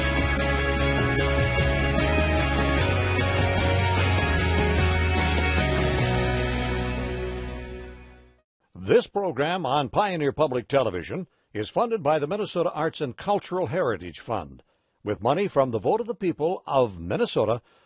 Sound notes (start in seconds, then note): 8.6 voiceover